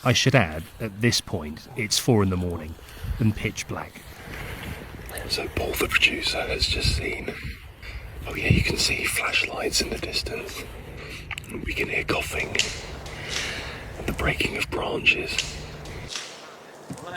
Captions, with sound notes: I should add, at this point, it's four in the morning and pitch black. So Paul, the producer, has just seen... Oh yeah, you can see flashlights in the distance. We can hear coughing [branches cracking] and the breaking of branches.